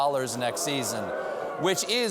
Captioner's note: audience reacts